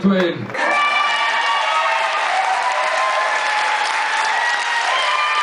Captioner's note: applause